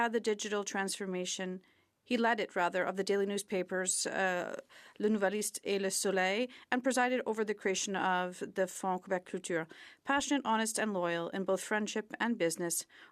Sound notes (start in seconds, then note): 9.8 speaking French; 12.9 speaking French